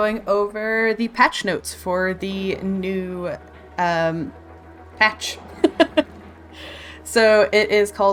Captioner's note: laughs